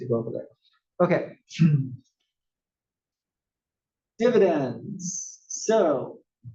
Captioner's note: cough